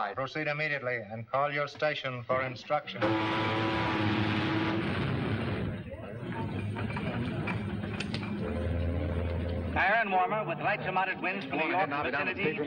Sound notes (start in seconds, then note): 3.0 ship horn blows; 6.2 crane rattling; 9.7 radio